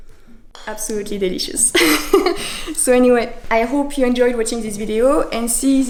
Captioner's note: laugh